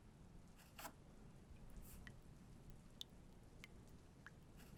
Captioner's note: water dribbling